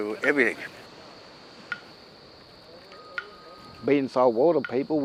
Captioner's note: sound effects and clapsticks